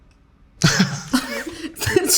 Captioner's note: both laughing